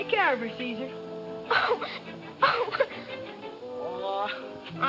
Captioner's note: crying